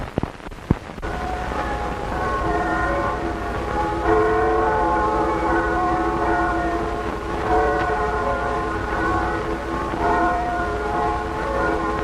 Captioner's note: bells ringing